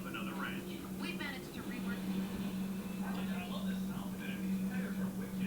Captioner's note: commentator on TV